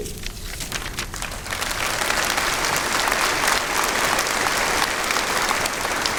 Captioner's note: applause